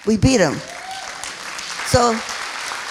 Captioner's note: applauding